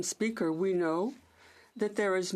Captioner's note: speaking French